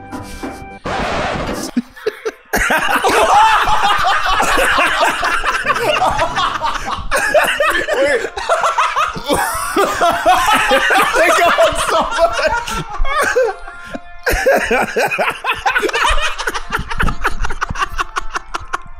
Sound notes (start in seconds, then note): 0.2 record scratch; 2.5 all absolutely losing it; 9.2 all laughing, gasping, crying, dying; 14.2 laughing maniacally